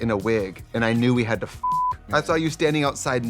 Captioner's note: beep